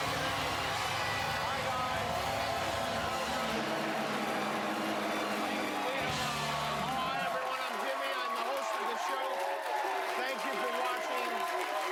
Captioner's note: cheers and applause